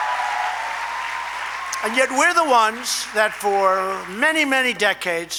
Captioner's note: applause